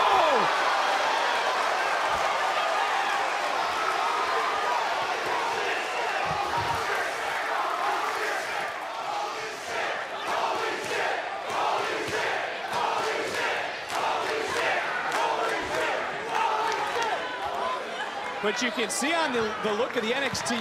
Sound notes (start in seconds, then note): 6.4 crowd chanting "holy